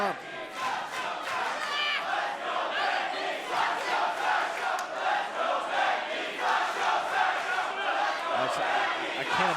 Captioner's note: crowd cheering